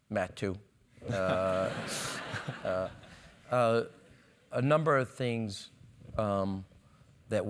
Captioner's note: laugh